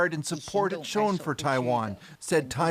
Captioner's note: speaking Alternate Language